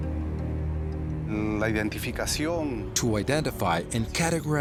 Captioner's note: speaking Spanish